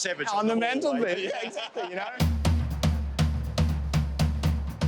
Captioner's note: both laughing